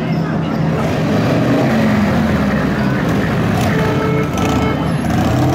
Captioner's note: Motorcycle engine noise, BART beeping, sirens